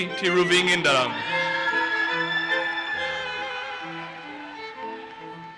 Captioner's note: audience cheers and applauses